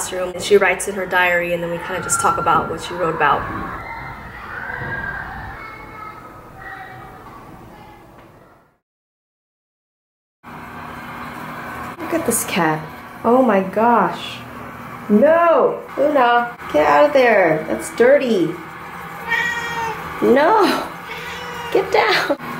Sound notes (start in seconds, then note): 19.2 meows